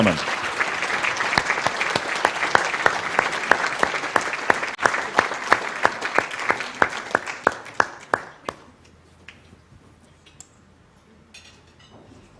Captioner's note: applause